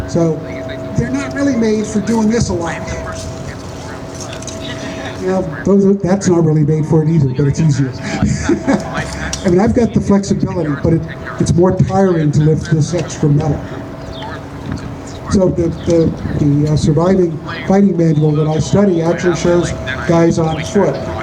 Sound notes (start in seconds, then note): 4.5 laughter; 8.5 laughs